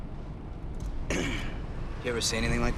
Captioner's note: clears throat